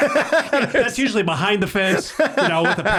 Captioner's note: everyone laughs